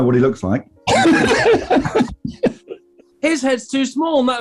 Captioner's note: laughing